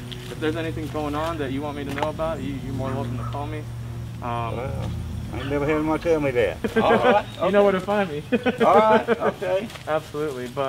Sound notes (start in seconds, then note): 7.9 laughs